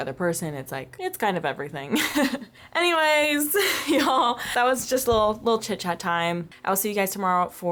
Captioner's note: laughter